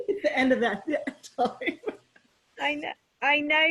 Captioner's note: laughs